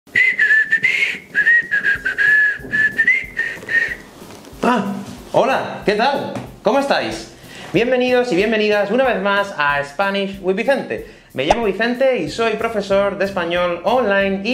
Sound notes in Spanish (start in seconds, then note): 0.1 Silbando